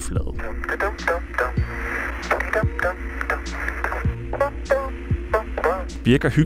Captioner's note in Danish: Astronaut nynner en sang